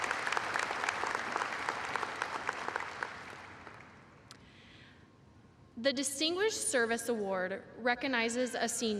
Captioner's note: applause